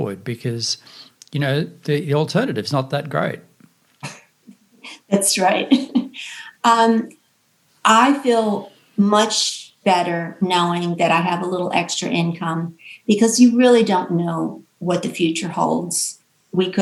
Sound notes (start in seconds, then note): 4.0 laughs; 5.6 chuckles